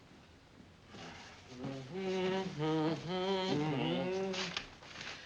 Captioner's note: humming